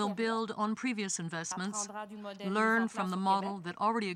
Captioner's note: speaking french